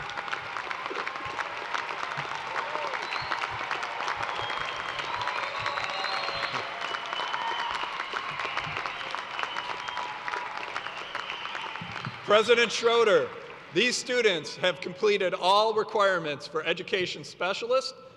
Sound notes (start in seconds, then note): 4.6 applause; 8.1 cheers and applause